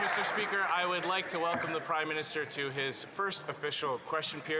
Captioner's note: applause